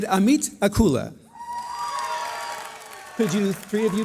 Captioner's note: cheering